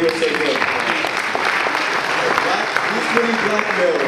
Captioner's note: audience applause